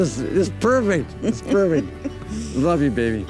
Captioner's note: woman softly chuckles